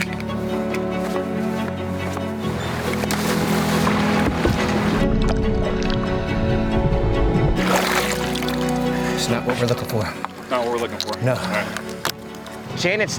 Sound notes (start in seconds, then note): 0.2 click; 2.5 steps descending; 3.2 water splashes; 5.2 dramatic music; 7.3 water splashes